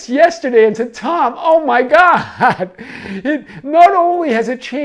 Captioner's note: chuckles